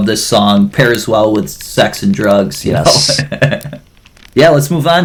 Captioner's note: laughs